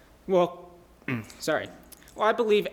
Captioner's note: ahem